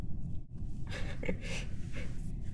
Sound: giggling

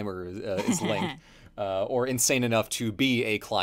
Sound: laughs

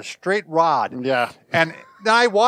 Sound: laughing

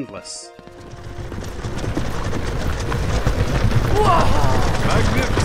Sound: hooves thundering

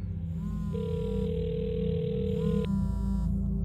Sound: phone ringing

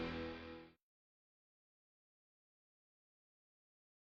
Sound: silence

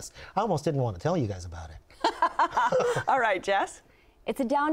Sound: laughs

